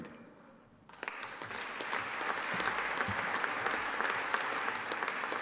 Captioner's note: audience applauding